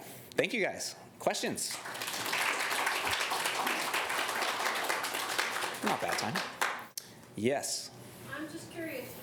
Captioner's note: applause